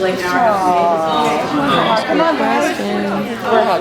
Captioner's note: restless murmurs